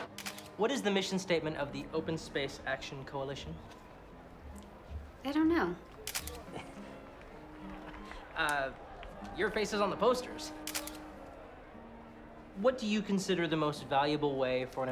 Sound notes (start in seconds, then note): 6.0 camera clicks; 6.3 chuckles